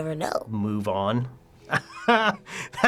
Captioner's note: laughs